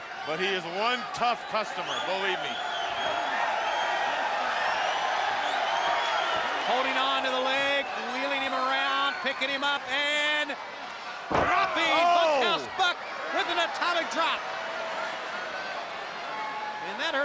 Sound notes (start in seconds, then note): 2.9 crowd cheering; 14.5 crowd chatter